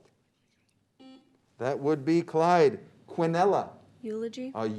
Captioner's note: beep